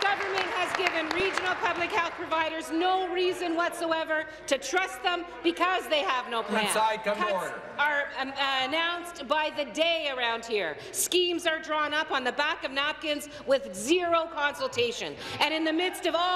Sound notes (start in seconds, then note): 2.7 applause